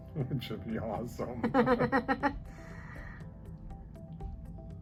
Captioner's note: chuckles